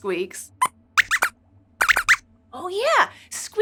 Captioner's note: squeaks squeaks